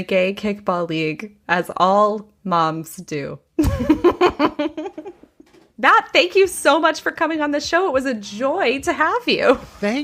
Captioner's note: laughs